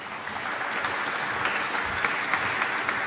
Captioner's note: applause